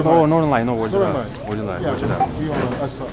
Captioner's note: mandarin